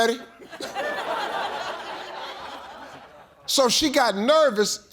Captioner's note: audience laughing